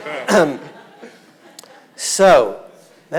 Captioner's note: audience laughing